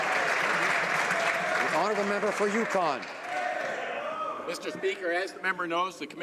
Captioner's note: some Applause